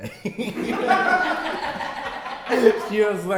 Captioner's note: hehehehe